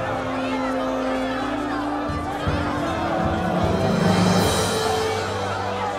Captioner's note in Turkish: Kalabalık bağrışma sesleri